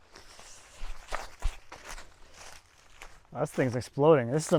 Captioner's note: ground crunches